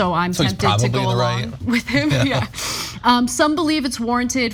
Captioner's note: laugh